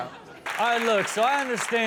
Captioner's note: audience clapping